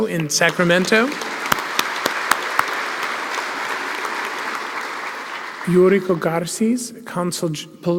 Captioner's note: applause